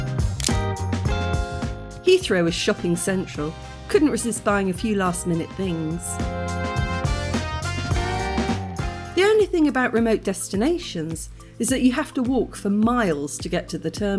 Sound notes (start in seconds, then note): none